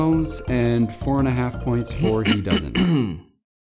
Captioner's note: clears throat